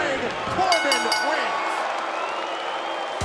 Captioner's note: bell ringing; crowd cheering